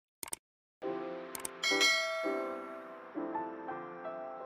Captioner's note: mouse clicks; bell dings; soft music